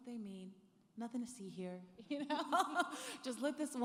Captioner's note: laughing